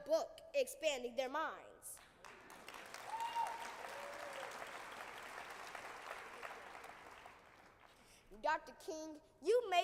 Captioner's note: applause